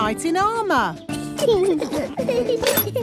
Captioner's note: children giggling